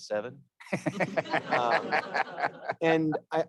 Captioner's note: all laughing